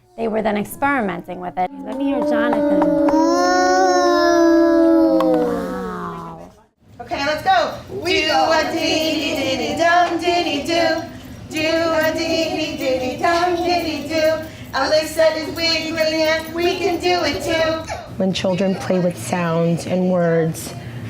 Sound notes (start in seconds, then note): 3.5 children making sounds